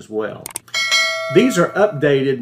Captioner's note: bell ringing